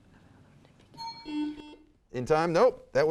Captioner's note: buzzer sounds